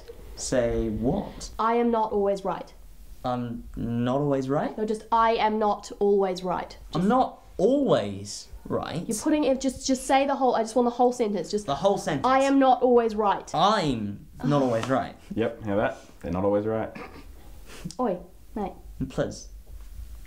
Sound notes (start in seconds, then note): 14.9 sighs; 17.2 snort